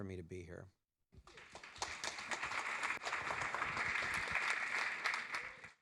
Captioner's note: audience applauding